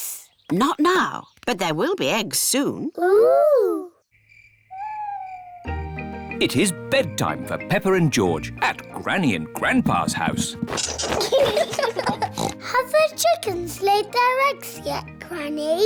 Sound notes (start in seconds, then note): 4.0 crickets chirping; 10.8 both giggling; 12.2 oinks